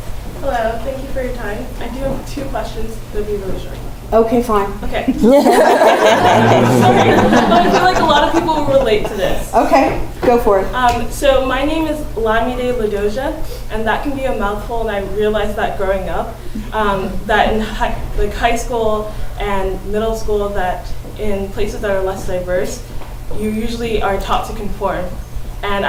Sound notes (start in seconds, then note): 5.1 laugh